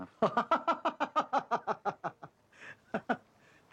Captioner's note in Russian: Издатель смеется